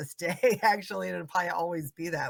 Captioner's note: laughing